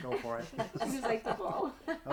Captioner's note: laughing